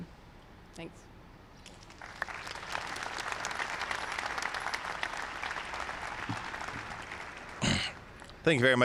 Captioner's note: applause